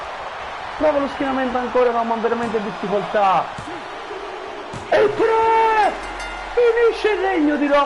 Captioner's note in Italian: Applauso